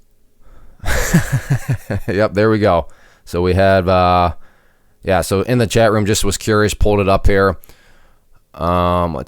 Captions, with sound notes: (laughs) Yup. There we go. So we had yeah, so in the chat room just was curious, pulled it up here.